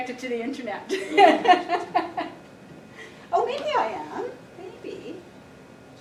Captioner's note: laughing